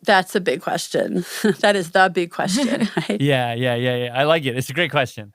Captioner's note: laughs